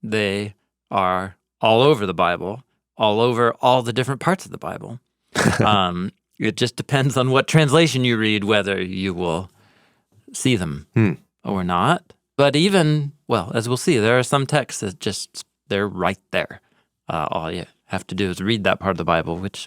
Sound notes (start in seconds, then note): 5.3 chuckles